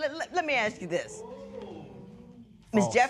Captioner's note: spectators murmur